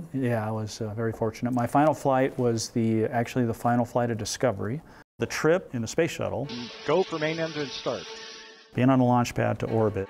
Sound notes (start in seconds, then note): 8.2 sparks sound